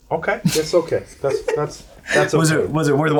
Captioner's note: laughs